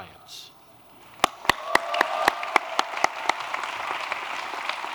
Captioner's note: applause